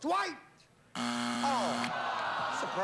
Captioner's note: buzzer